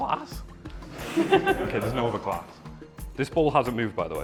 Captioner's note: laughter